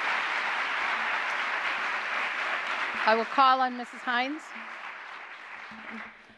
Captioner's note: applause